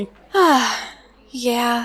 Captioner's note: sighs